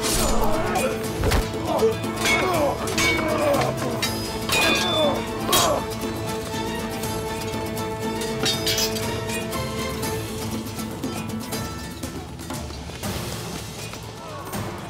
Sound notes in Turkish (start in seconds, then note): 0.0 Dövüş sesleri; 7.7 Müzik devam ediyor